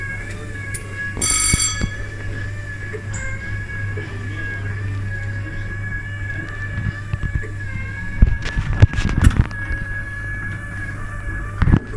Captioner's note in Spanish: ruidos ambiente y máquina